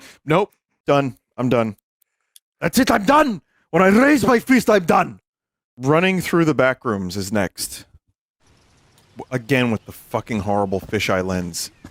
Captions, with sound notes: Nope. Done. I'm done. (as Skeletor) “That's it, I'm done! When I raise my fist, I'm done!” Running Through the Backrooms is next. Again with the fucking horrible fisheye lens.